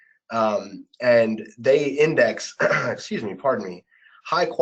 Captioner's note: clears throat